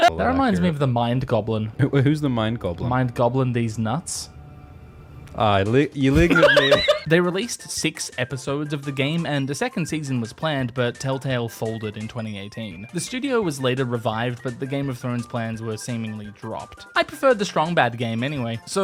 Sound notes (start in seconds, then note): 6.2 rapturous laughter